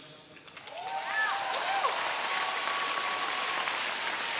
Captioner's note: audience cheering